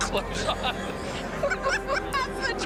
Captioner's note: ambos risos